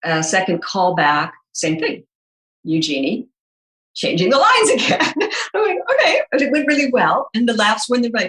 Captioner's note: chuckles